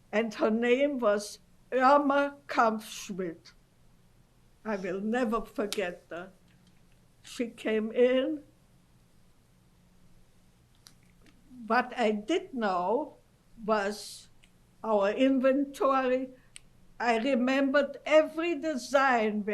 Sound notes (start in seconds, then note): 8.3 pauses for 3 seconds